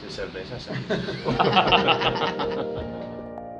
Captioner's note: laughs